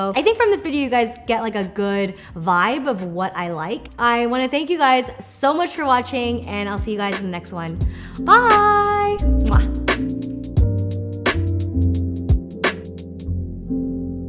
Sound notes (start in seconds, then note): 9.4 lips kissing; 10.9 soft New Age music